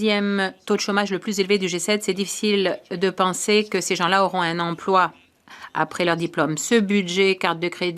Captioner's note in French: voix de l'interprète